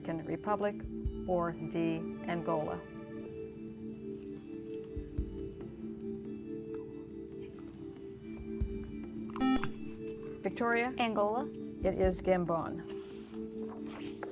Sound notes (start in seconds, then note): 3.5 whispering; 9.4 buzzer